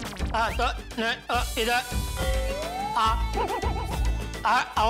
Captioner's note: stammering